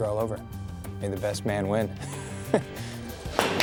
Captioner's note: chuckling